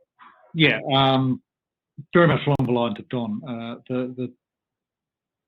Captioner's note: audio distorts